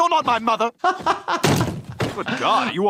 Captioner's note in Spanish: riendo